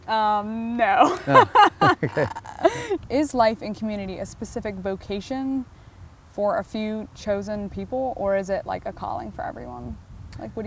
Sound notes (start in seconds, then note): 1.0 laughing